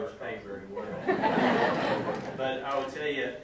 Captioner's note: audience laughing